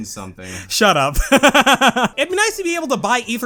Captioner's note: laughs